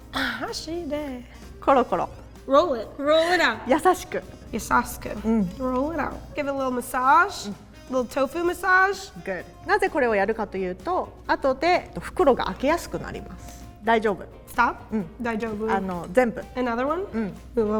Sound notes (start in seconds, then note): 0.0 speaking in Japanese; 0.2 imitating Japanese; 1.7 speaking in Japanese; 3.7 speaking in Japanese; 5.1 imitating Japanese; 10.1 speaking in Japanese; 15.4 speaking in Japanese